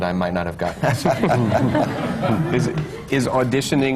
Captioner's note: laughter